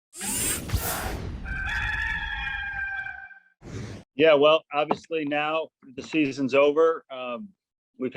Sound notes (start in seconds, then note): 0.1 gears whirring; 1.4 gamecock crowing